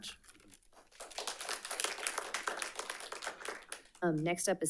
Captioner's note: audience applauding